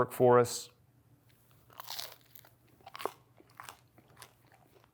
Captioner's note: eating loudly